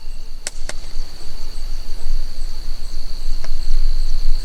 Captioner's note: fire crackling